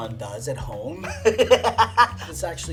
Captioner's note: laughs